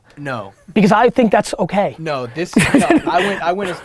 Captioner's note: laughs